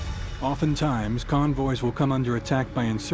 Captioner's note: voiceover